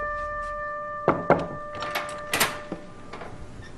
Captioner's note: Mengetuk